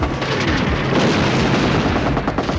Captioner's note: metal clatters